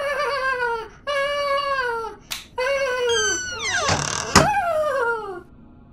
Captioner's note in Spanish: Aaaaah, aaaah, uhaaah